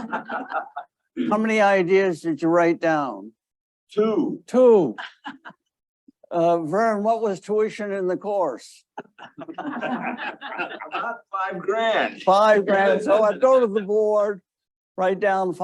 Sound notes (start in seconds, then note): 9.0 audience laughing